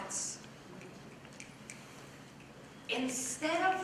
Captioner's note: snapping